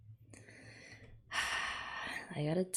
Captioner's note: sighs